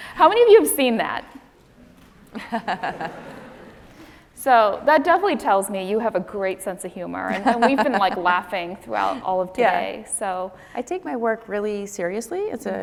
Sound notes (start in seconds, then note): 2.3 laughing